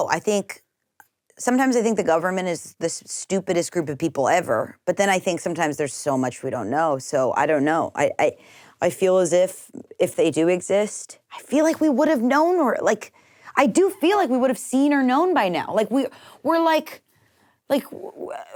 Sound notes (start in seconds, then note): none